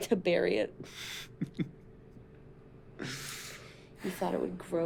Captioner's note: chuckling